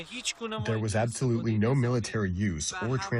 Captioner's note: through translator